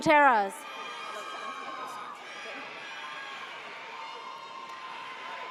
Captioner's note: audience cheers